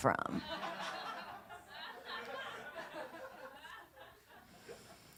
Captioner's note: laughter